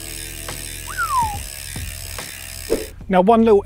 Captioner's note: whistles